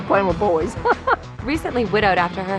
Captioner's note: laughs